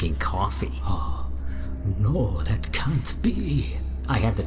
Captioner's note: gasps